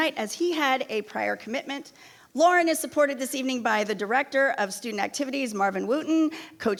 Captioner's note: none